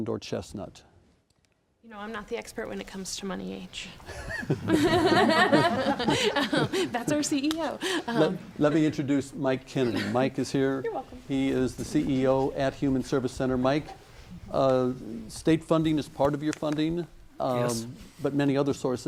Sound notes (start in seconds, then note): 8.7 laughing